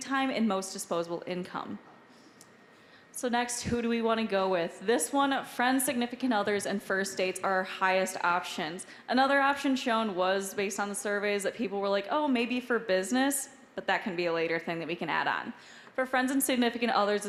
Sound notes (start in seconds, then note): none